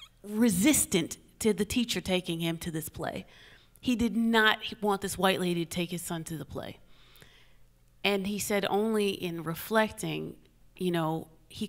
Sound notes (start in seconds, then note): none